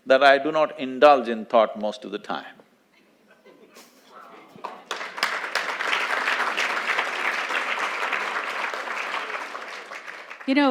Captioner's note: few laugh; applause